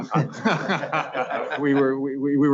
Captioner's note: laughing